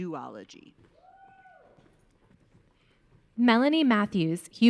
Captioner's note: audience cheering